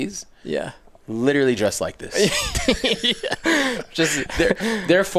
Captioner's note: laughs